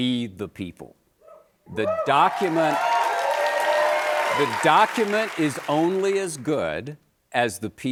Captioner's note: cheers and applause